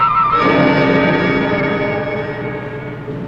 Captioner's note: guns firing; machine gun firing